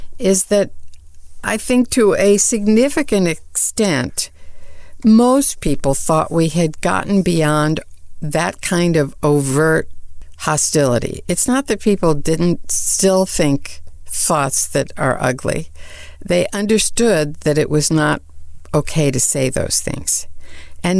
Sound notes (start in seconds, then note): none